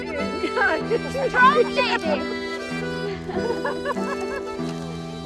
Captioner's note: laughing